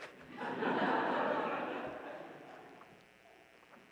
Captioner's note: audience laughing